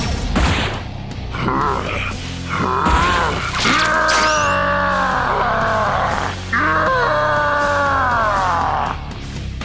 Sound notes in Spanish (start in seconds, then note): 2.4 Gruñidos; 3.5 Grita dolorosamente